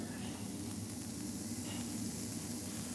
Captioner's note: hiss